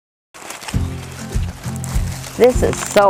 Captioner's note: corn stalks rustling